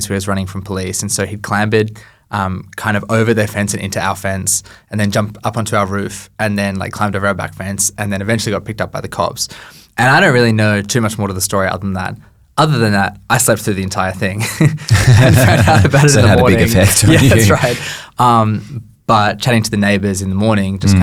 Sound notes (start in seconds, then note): 14.4 both laughing